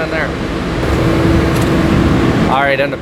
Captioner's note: buzzing sound